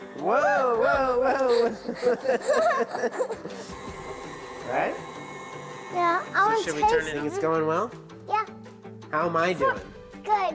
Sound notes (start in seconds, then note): 0.3 all laughing; 3.4 mixer whirring